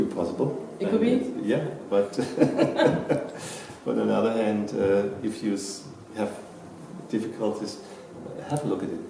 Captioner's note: laughing out